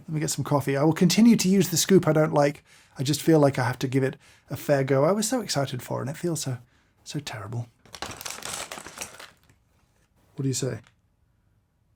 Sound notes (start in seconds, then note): 7.8 beans rustling